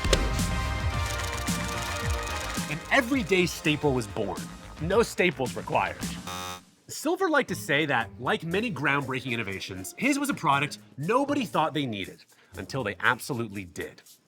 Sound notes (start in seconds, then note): 0.0 upbeat music; 6.1 alarm buzzes